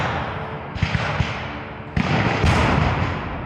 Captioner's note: guns fire